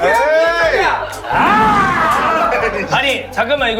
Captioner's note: overpowering with a roar